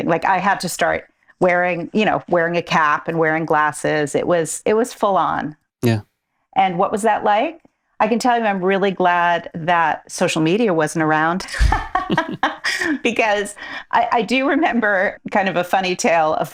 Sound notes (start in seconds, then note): 11.5 laughing